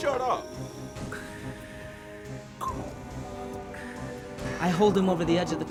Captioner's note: Russell imitating Darth Vader breathing